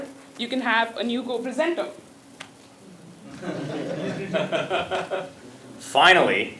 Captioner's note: laugh